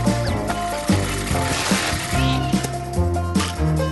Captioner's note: lawn trimmer whirring; fabric shredding